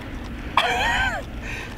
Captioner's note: some kind of laugh/cough